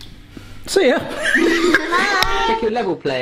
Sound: laughs

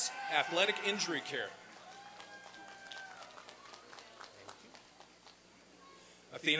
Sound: applause and cheering

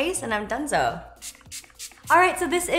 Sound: gentle spritzes

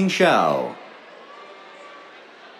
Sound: cheers

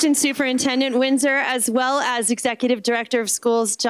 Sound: applause

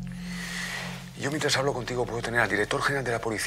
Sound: breathes heavily

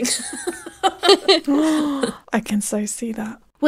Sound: both laughing

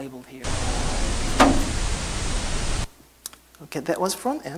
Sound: drawer closes

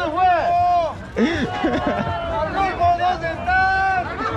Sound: crowd is shouting

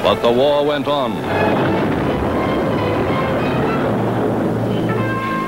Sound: explosion booms; dramatic lively music

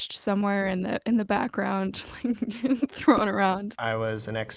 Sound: laughter

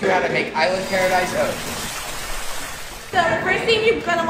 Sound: audience applauds

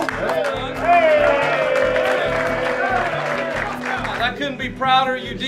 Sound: everyone clapping and cheering

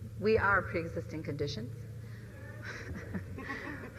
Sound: chuckles

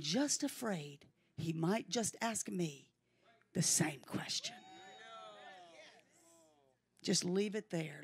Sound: congregation cheers in agreement

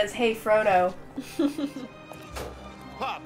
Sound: laughter

